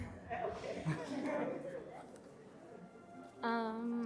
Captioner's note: people laughing